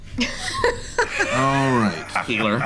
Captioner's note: laughing